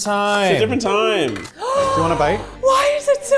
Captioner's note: gasps